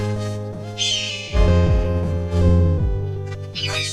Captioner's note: screeches